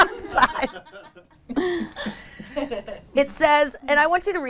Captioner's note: all laugh